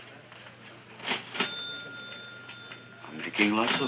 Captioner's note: cash register chiming